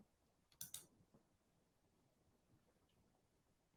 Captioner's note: mouse clicking